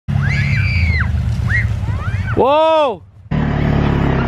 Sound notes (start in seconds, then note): 0.1 children screeching